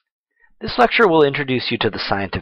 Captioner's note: voiceover